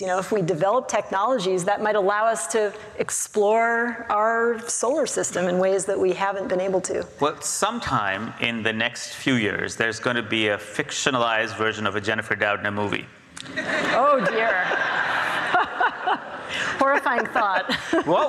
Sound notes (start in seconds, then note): 13.4 audience laughs